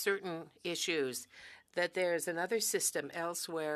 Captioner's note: speaking French